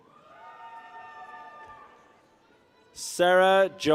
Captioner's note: people cheer